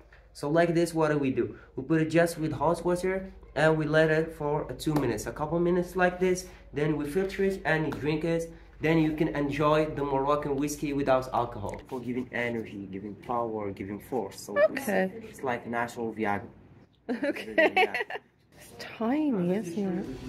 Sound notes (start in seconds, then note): 17.2 laughing